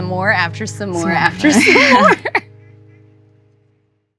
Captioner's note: laughs